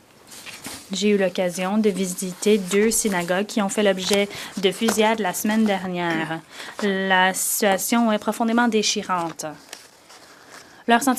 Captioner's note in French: voix de l'interprète